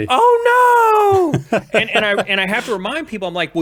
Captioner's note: laughs